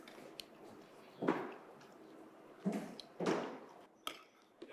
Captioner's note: footsteps thumping